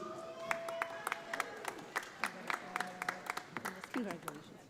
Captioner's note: audience applauding